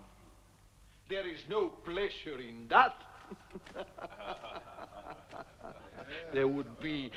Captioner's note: laughing